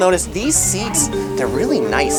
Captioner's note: bells chiming